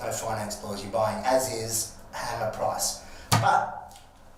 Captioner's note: slamming